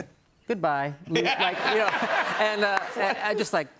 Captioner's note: laughter